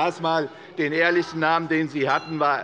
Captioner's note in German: Unruhe - Glockenzeichen des Präsidenten